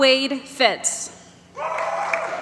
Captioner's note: applause